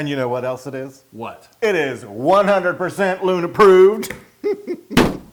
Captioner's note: laugh